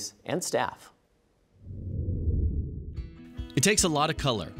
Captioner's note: air swooshing